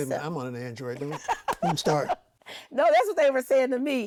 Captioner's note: laughs